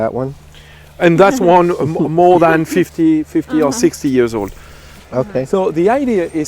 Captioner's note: giggles